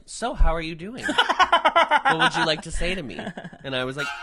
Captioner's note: laughs; violin screech